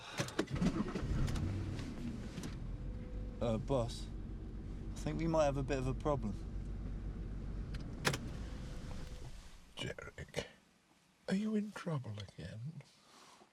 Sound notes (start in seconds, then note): 0.5 Derek sighs; 1.4 engine rumbling